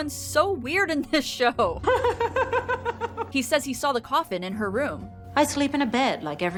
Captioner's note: giggling